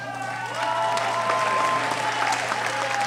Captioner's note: cheering